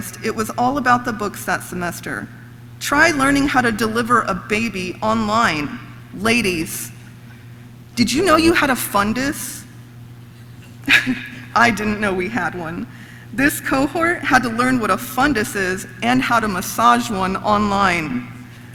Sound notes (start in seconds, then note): 10.8 laughs; 10.8 audience laughs